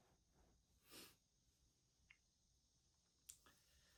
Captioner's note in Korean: 콧방귀